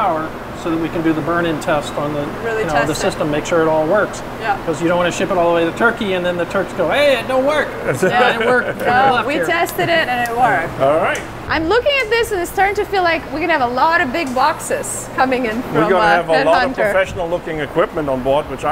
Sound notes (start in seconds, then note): 7.7 laughing